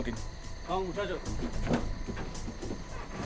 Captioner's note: speaking Spanish